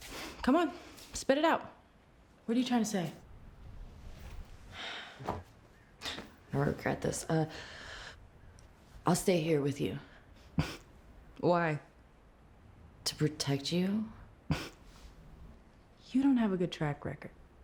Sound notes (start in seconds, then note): 4.7 sighs; 10.5 scoffs; 15.0 scoffs